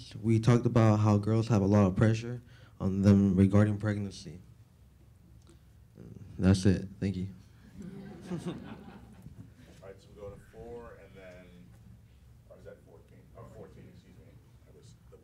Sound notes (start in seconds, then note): 7.7 chuckling